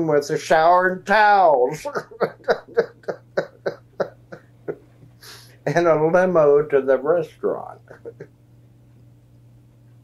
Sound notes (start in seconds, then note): 7.8 laughs